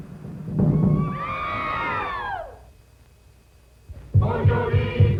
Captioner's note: screaming; chanting